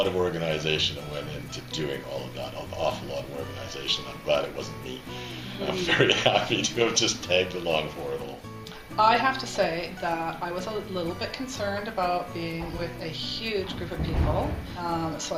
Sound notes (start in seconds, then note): 5.6 laughter